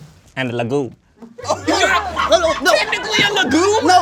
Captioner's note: audience laughing